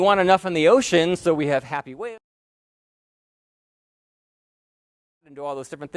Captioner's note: audio cuts out